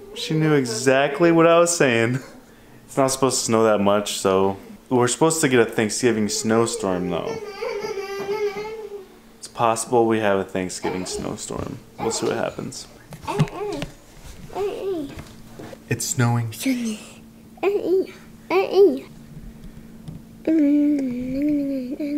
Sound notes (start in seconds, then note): 7.2 laughing; 13.2 babbling; 17.4 murmuring repeatedly